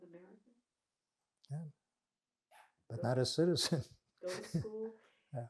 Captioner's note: laughing